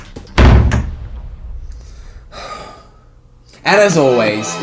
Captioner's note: door slams, sighs